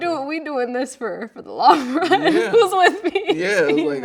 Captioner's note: laughing